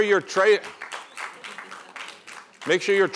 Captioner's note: applause